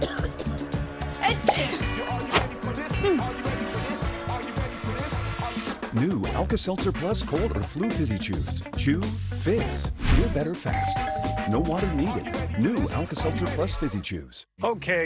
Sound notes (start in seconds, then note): 0.0 cough Cough; 1.3 sneeze